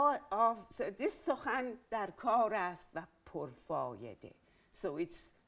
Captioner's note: speaking in Farsi